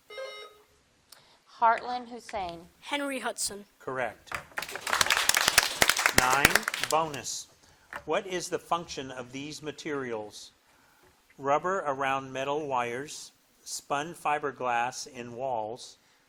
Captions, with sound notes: (bell dings) - Heartland, Hussein. - Henry Hudson. - Correct. (audience applauding) Nine, bonus, what is the function of these materials? Rubber around metal wires, spun fiberglass in walls,